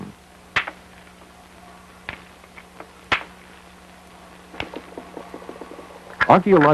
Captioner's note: sound of hammering rock